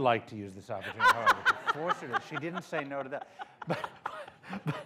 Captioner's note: laughter